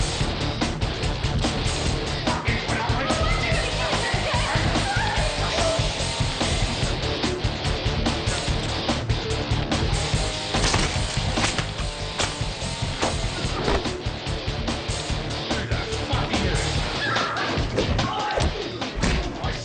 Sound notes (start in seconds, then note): 17.0 female screams